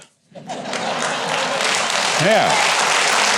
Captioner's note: audience laughing; audience clapping